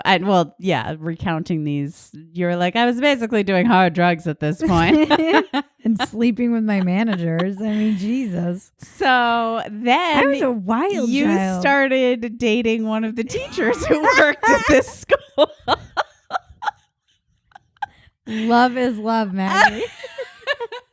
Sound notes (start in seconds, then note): 15.4 laughing